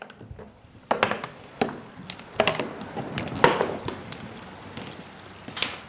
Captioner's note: plastic ticking, rolling against stones